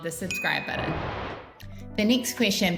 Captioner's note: image whooshing